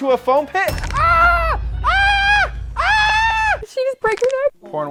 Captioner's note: screaming